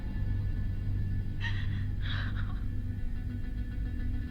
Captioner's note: transient cries